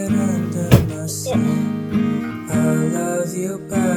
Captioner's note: tears